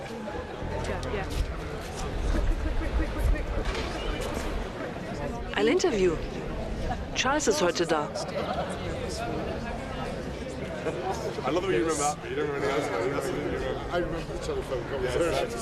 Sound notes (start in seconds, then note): 0.2 voiceover; 8.1 soft talking